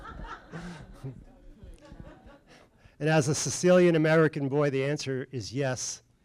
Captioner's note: laughter